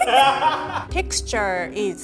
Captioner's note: laughing